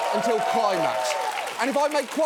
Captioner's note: studio audience cheering